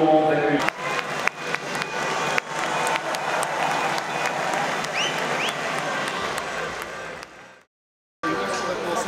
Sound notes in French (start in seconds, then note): 0.6 Applaudissements